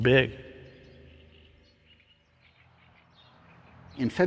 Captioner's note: birds chirping